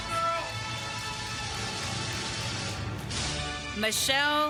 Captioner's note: applause